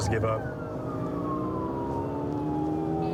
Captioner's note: siren blaring